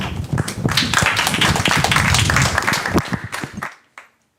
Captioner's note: applause